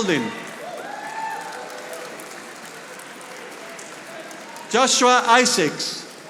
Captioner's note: audience applauding